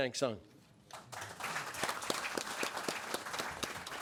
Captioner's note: audience applauds